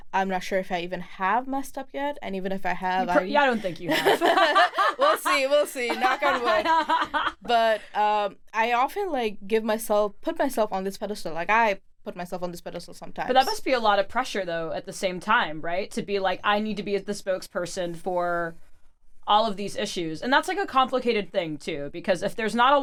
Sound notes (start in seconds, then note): 6.0 laughs